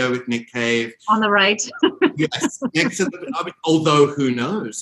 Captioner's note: laughs